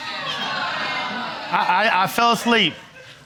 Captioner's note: audience exclaims